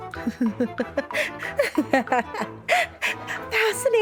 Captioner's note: maniacal laughter